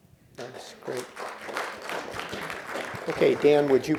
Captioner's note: applause